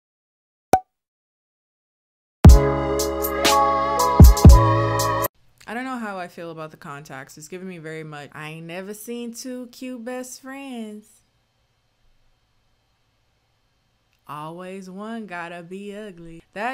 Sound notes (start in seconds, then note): 0.7 pop; 2.5 soothing music